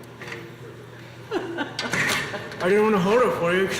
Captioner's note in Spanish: la mujer se ríe